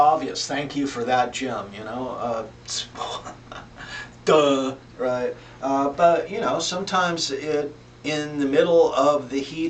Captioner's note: laughs